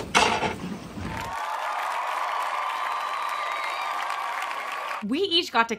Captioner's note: crowd Cheering